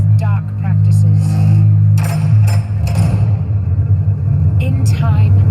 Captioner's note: banishment noises